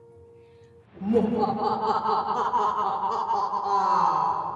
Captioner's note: evil laughing